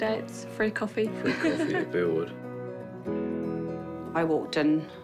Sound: chuckles

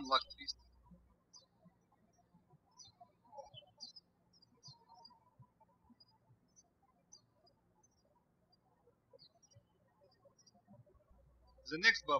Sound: birds chirping

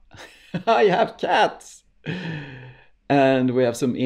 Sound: laughs

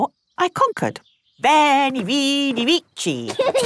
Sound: laughing

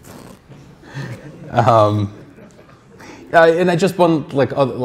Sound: crowd laughing

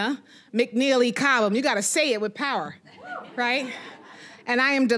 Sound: audience laughing

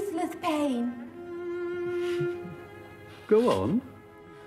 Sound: sniffing

